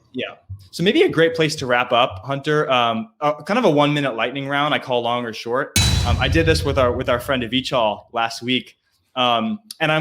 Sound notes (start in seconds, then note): 5.7 boom resonating; 5.8 metal crashing